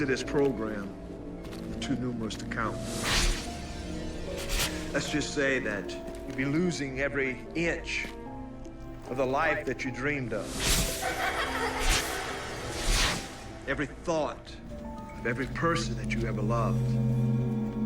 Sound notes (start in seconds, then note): 10.9 children laughing